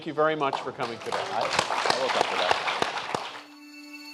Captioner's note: applause